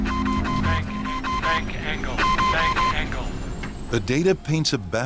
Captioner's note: alarm